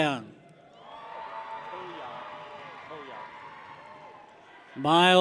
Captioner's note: people cheer